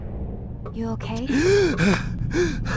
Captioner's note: gasp